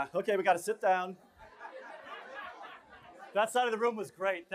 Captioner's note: laughter